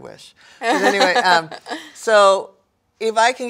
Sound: laughs

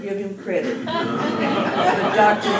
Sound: laughter

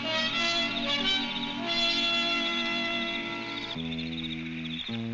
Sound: insects chirping

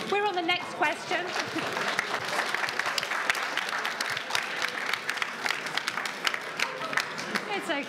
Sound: applause

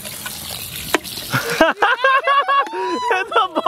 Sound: laughing

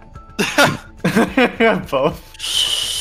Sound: laughs

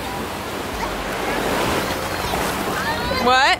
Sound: waves crashing drowns out voice

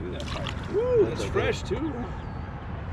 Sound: whooping

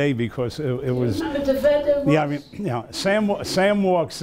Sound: mumbling

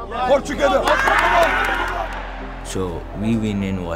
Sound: team cheers

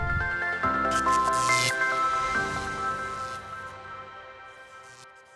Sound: neon lights buzzing

